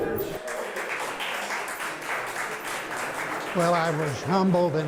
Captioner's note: group applauding